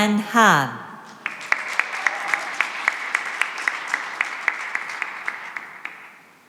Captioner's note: applause